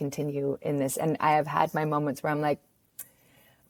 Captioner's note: smacks lips